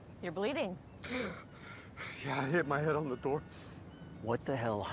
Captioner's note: gasping; groans